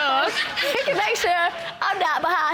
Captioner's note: audience laughing